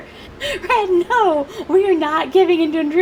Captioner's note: laughing